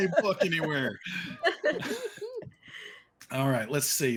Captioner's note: actors laughing